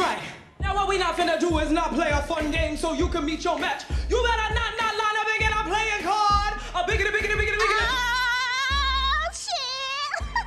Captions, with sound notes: Now what we not finna do is not play a fun game so you can meet your match. You better not not line up and get a playing card. (VOCALIZING) Oh shit! (CHUCKLES)